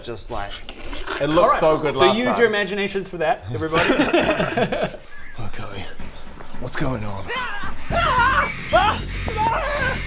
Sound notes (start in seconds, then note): 3.7 cheap laughs; 7.2 wails